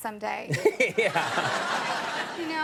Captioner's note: audience laughing